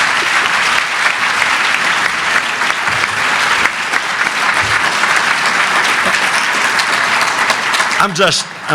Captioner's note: applause